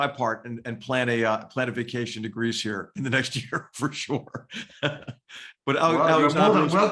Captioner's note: laugh